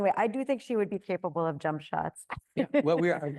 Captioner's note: laughs